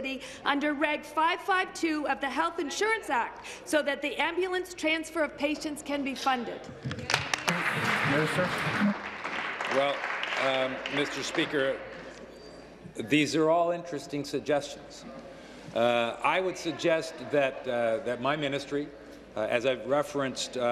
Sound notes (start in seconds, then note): 12.5 applause